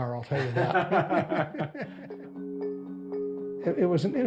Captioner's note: laughter